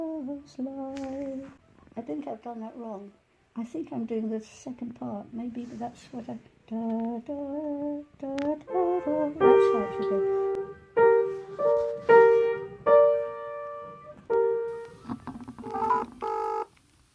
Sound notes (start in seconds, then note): 6.3 hums the melody